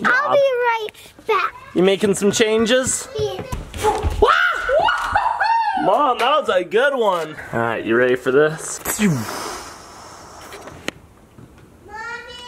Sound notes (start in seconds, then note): 4.7 shout